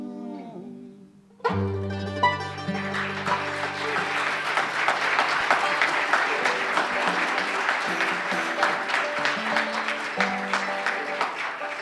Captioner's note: applause